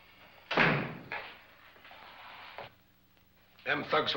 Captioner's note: door slams